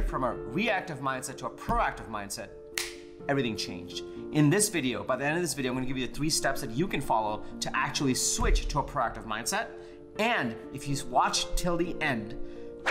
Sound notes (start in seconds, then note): 2.7 snaps